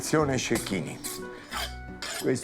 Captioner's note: knives scraping